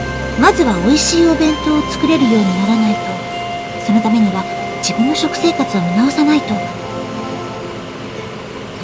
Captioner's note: rain